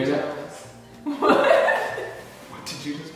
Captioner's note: laughing